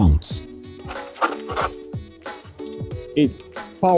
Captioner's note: braking Sound